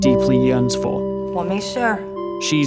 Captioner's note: in mandarin